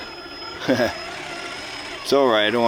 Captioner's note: engine roaring; laughs